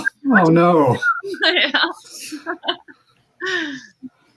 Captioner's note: laughs